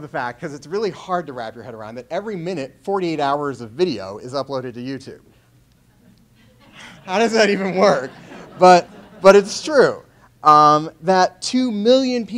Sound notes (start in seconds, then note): 6.3 laughs